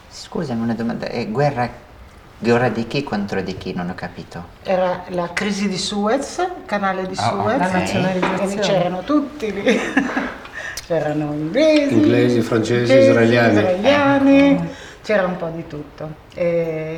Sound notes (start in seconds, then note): 7.2 chatter